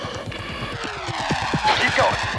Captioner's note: aircraft engine roaring